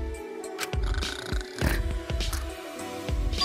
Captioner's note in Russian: хрр-шморг